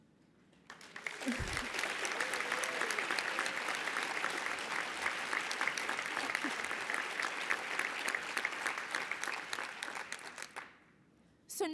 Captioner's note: applause